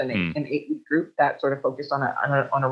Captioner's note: murmurs